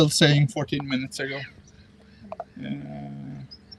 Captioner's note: birds chirping